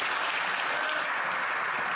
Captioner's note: some Applause